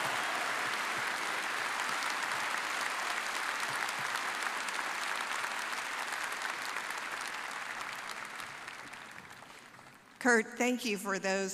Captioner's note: applause